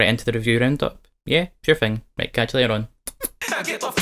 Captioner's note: smooch